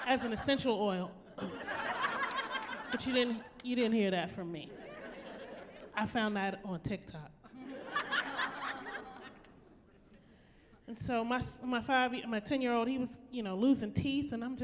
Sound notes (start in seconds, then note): 1.4 laughing; 7.6 laughing